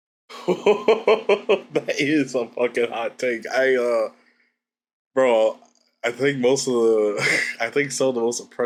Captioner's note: laughs